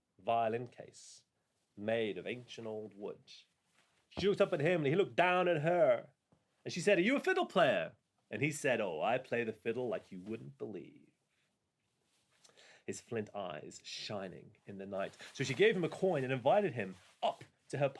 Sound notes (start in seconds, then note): 8.5 American accent